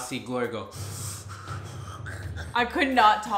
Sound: inhaling sharply

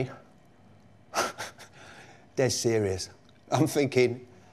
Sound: laughs

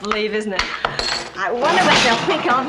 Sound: laughs; clink, clank

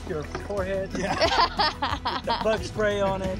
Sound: all laughing

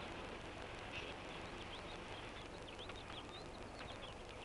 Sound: birds chirping

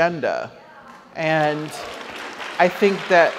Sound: audience applauds

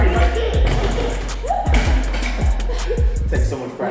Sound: both laugh

